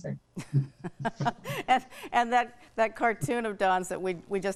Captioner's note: laughs